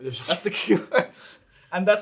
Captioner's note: chuckling